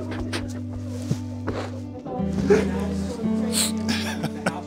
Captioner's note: sobbing joyfully